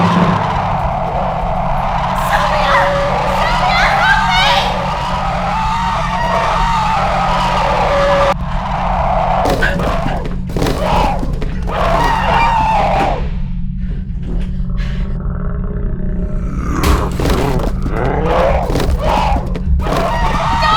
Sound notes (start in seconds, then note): 8.5 growling; 13.9 panting; 16.3 growling